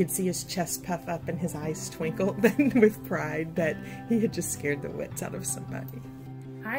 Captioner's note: chuckles